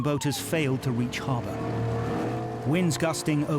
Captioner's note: boat droning